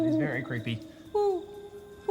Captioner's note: hooting